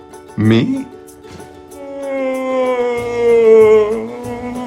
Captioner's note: groans